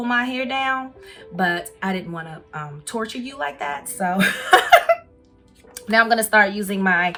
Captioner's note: laughs